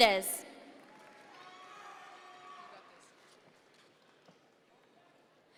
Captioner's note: audience members cheer